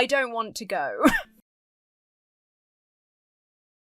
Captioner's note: wheezes